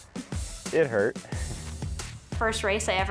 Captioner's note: chuckles